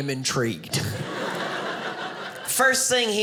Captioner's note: audience laughing